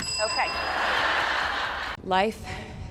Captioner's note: crowd members laughing hysterically